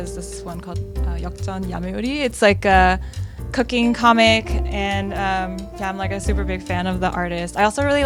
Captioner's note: Korean